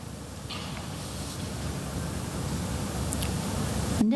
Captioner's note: none